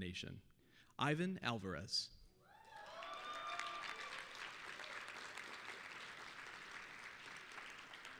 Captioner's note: applause, cheering